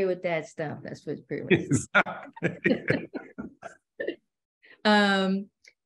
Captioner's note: laughter